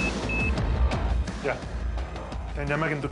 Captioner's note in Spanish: Bip intermitente